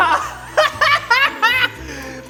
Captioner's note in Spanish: Jajaja